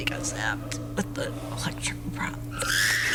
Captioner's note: apes screaming